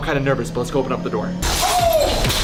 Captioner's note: door shattering noises